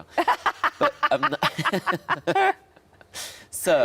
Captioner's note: Sarah and Tom laughing